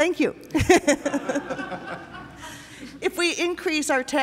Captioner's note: laughter